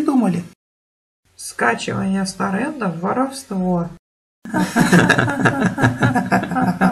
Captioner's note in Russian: Смеются